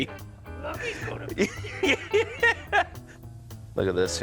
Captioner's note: laughter